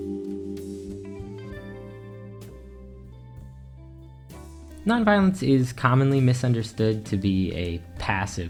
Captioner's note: transition Ding